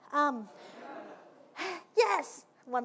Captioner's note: audience laughing